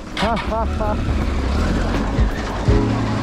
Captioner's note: laughter